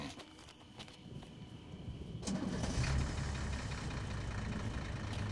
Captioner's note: engine starts